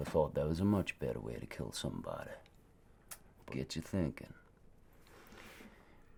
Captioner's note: clicks tongue